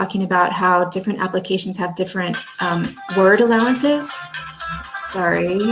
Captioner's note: phone rings in background